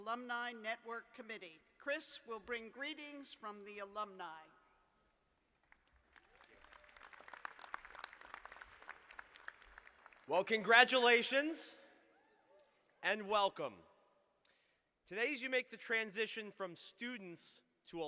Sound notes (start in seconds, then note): 9.1 applause